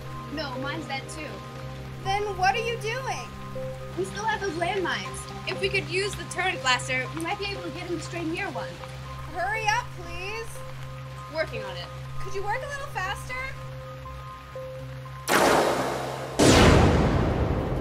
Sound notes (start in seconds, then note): 15.2 blasterfire; 15.2 cannonfire